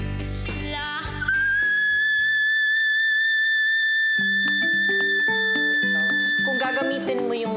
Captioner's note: whistling